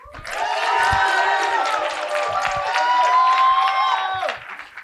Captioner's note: cheering and applause